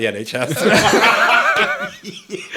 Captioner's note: all laughing